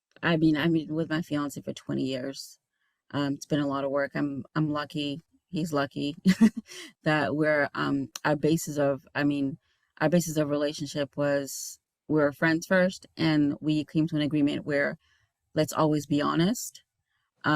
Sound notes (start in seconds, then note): 6.3 chuckling